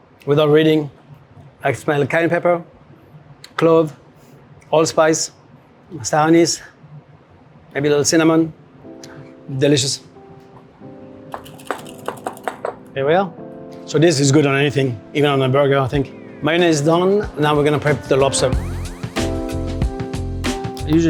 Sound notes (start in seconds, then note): 10.3 gentle music; 11.3 whisk rattles; 18.6 upbeat music